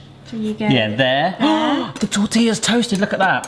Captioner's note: gasps